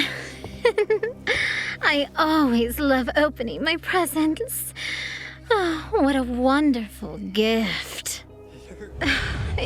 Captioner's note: giggle